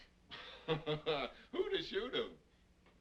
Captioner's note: Pat laughing